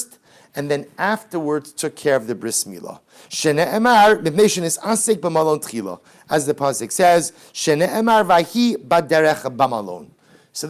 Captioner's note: Hebrew